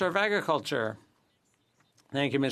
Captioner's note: speaking French